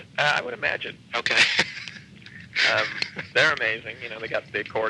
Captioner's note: laughing